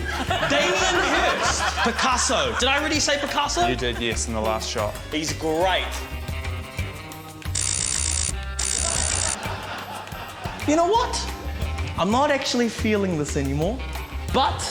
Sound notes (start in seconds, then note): 0.0 laughter; 8.5 lasers buzz